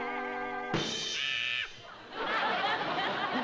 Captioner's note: screams